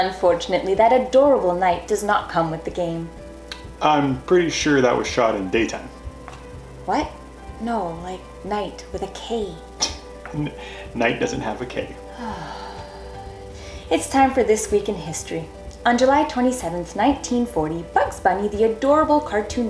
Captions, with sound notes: Unfortunately, that adorable knight does not come with the game. I'm pretty sure that was shot in daytime. What?! No, like knight with a "k". (Scoffs) Night doesn't have a "k". (audible sigh) It's time for "This Week in History"... On July 27th, 1940, Bugs Bunny, the adorable cartoon